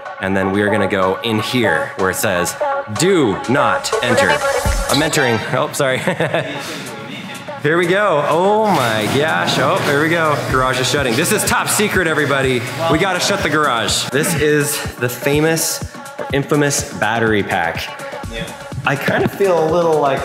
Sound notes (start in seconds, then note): 6.4 cameraman laughing